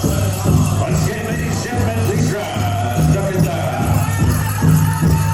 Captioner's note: announcer shouting; drum music; native American chanting